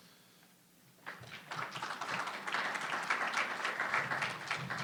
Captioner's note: audience applauding